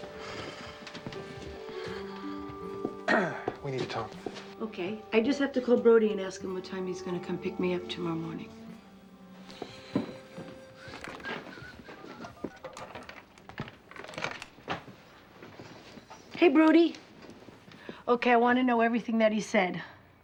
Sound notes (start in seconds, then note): 3.0 clears throat; 10.4 whistling softly; 11.9 dialing